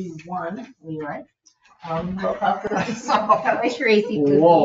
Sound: people chuckle

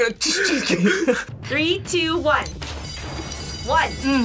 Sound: bell rings

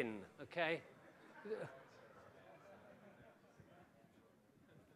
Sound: crowd laughs

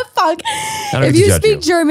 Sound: laughing

